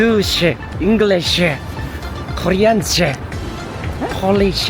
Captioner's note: Korean